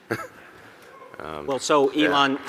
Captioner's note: chuckles; audience whoops